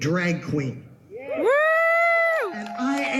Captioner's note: audience cheers